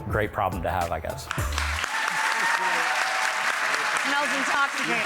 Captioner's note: audience applauding